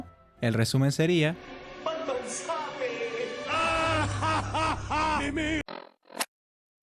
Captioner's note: laughs